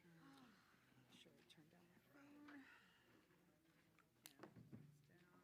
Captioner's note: indistinct chatters